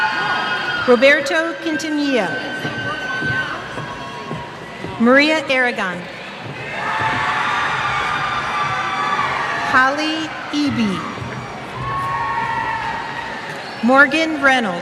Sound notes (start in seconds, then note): 6.4 cheers